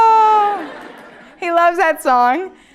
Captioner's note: laugh